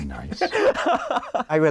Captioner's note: laughs